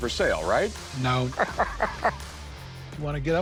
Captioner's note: Rick laughs